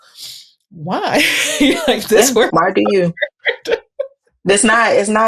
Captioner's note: laughs